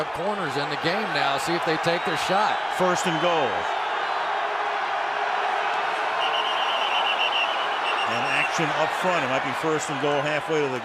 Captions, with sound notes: Two backup corners in the game now, see if they take their shot. First and goal-- [whistle blows] --an action up front, it might be first and goal,